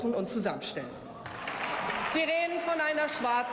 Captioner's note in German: Beifall